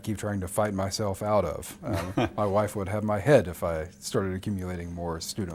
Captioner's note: laughs